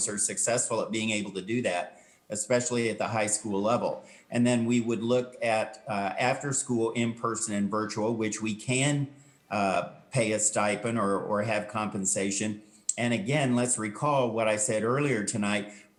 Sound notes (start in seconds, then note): none